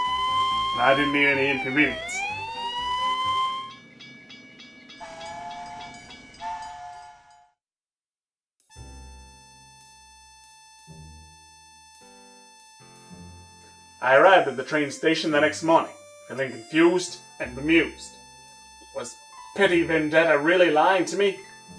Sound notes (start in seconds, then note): 3.8 train bells and whistles; 8.8 smooth Jazz music